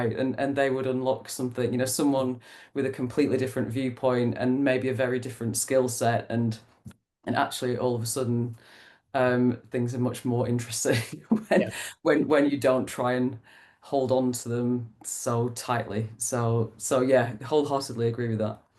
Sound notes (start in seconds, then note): 11.4 laughs